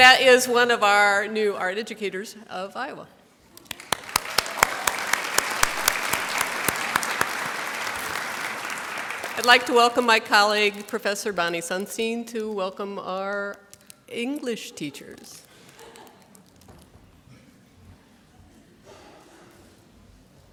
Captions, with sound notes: And that is one of our new art educators of Iowa. (applause) I'd like to welcome my colleague Professor Bonnie Sunstein to welcome our English teachers.